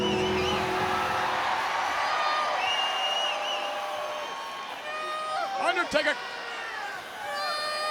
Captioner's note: applause